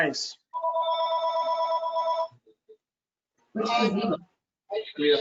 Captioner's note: phone rings